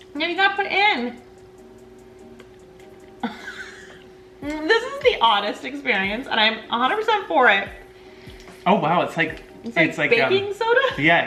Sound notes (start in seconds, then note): 3.4 coughs quietly